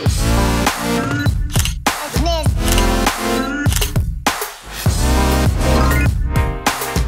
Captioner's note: funky music; camera clicking